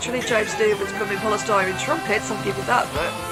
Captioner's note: cries!